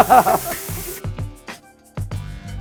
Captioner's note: laughing; electronic pop music